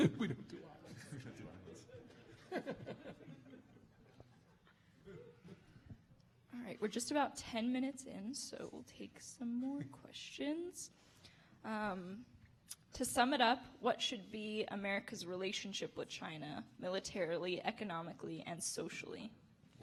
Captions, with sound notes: We don't do islands. Ha! We don't do islands. [audience laughing] All right, we're just about 10 minutes in, so we'll take some more questions. To sum it up, what should be America's relationship with China, militarily, economically, and socially,